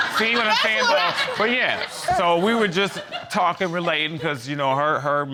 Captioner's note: audience laughing